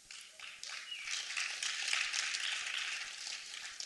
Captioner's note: applause